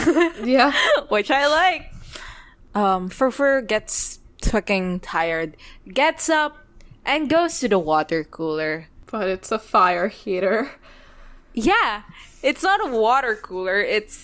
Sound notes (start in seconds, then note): 0.6 laughs